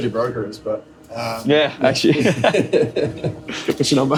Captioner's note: laughter